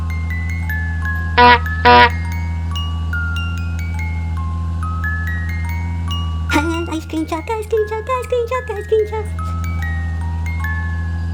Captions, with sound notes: [ honk honk ] Timmy > ice cream truck ice cream truck ice cream truck ice cream truck